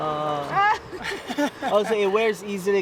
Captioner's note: laughing loudly